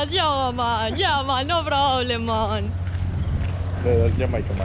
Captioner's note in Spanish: acento de Bahamas